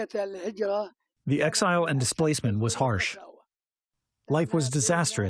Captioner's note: through translator